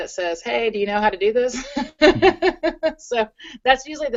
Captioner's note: laughs